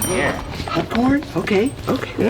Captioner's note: ding